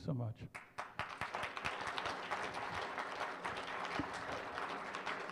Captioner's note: applause